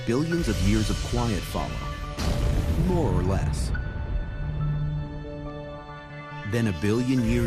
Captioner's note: impact